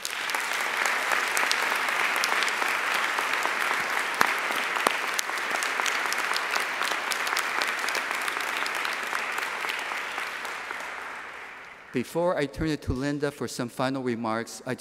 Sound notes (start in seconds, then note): 0.6 audience applauding